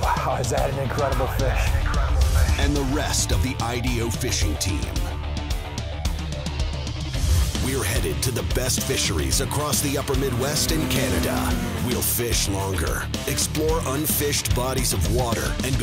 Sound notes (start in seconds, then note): 2.7 voiceover